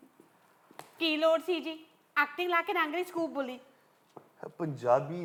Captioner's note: in Punjabi